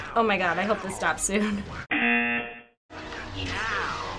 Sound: buzzer

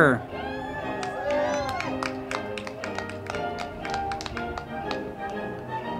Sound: band music; crowd clapping and cheering

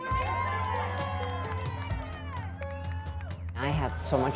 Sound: applause

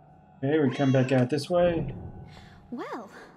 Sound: cat meows

